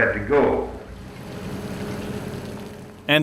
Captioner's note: water trickling